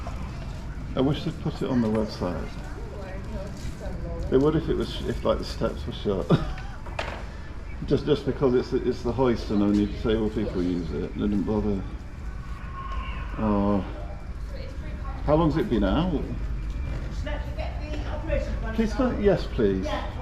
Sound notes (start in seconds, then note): 6.2 laughs